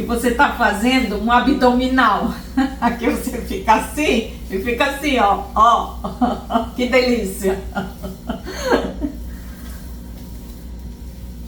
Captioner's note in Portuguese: risos